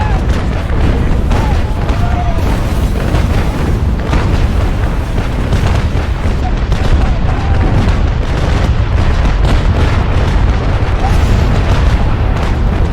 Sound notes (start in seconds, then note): 8.2 explosions booming